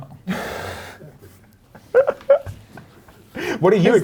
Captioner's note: laughing